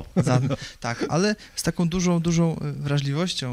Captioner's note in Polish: śmiech